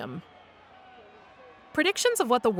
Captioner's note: crowd cheers